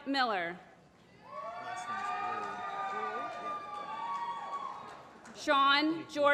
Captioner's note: applause